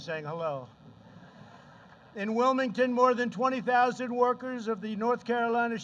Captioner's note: laughter